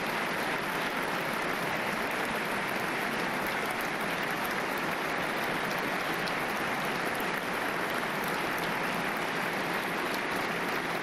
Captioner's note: applause